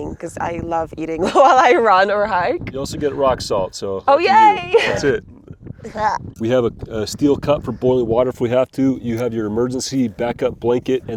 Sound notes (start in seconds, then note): 2.2 laughs; 4.7 gags